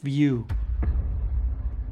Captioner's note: cinematic hit